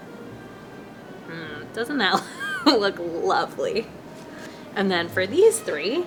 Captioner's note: laughs